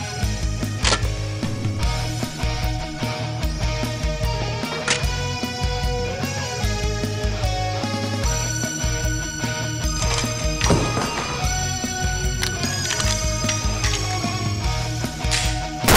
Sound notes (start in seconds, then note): 2.0 click